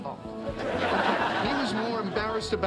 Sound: audience laughing

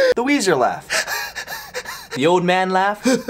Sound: gasp

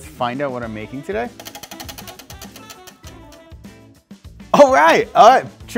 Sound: wheel clacking

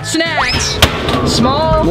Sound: whistle sliding

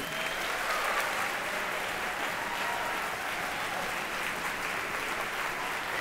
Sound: applause

